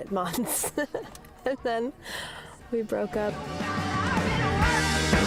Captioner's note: laughs